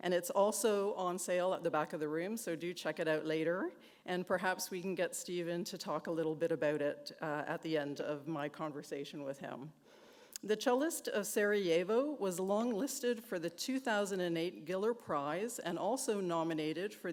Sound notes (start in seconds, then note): none